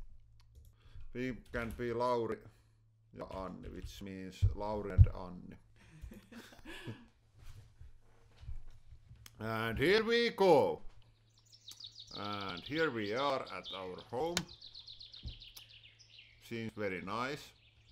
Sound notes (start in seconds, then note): 5.8 laughing; 10.8 birds singing outside